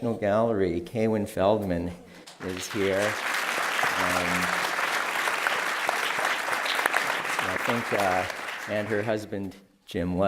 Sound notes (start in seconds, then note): 2.2 applause